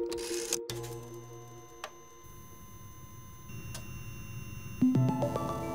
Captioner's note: machine buzzing; pensive music